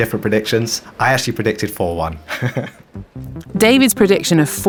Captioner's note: laughs